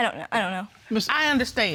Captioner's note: stammering